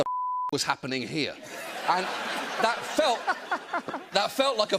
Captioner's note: laughter